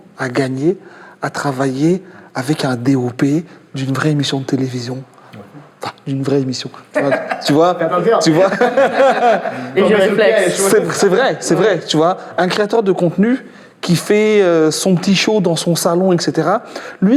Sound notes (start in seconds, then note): 6.8 laughs